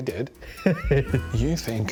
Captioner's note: laughing